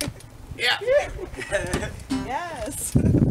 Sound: light laughter

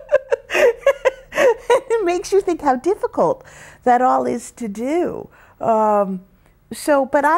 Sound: laughs

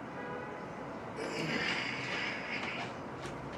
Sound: horn honking

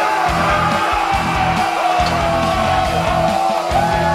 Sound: cheering

